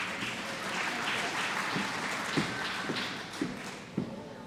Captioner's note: applause